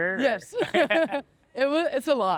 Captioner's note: laughs